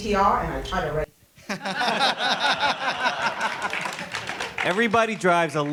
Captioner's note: laughter and applause